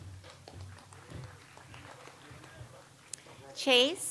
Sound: audience applauds

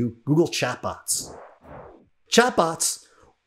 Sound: graphics whooshing

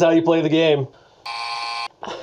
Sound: buzzer buzzes

